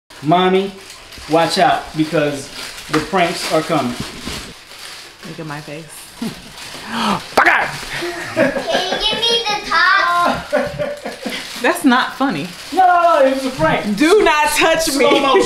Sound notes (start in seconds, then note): 6.8 scoffing; 6.8 laughing; 12.8 faintly speaking; 14.8 laughing